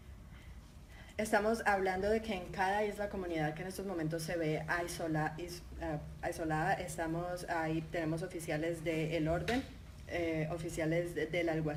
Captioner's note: speaking in Spanish